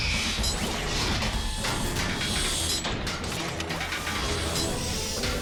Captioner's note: metallic thudding, grinding and clanking as jets transform